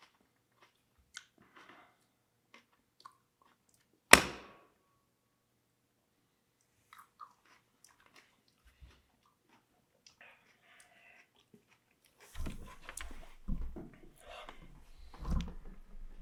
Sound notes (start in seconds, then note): 4.3 lid thuds